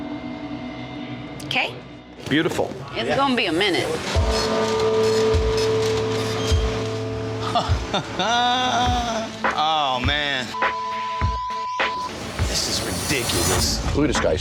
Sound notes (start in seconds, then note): 4.6 tense music; 7.4 laughing